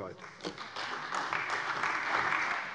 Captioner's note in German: Beifall bei der CDU und dem BÜNDNIS 90/DIE GRÜNEN